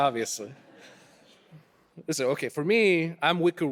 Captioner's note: audience laughing